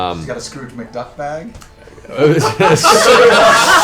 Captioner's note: laughter